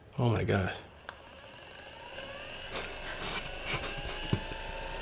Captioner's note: machine whirring; Lamorne laughing